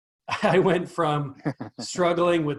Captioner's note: laughs